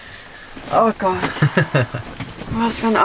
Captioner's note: laughter